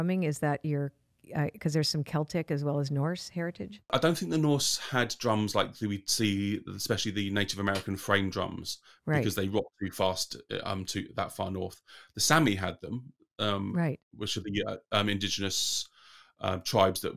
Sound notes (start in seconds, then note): 5.7 speaking in foreign language